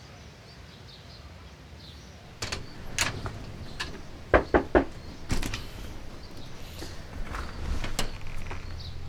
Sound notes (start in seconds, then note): 0.0 chirping birds and rustling leaves; 2.3 knock, knock, knock